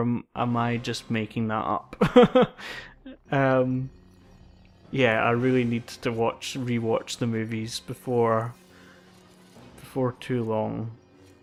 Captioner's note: laughs